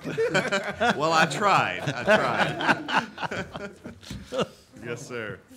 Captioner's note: audience laughing